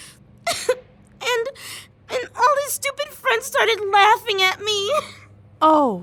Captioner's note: sobs